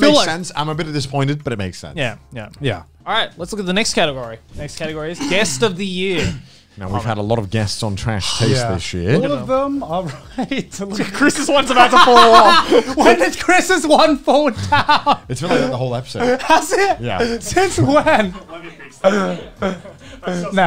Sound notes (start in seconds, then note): 10.9 laughing